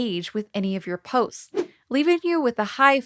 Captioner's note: logo whooshing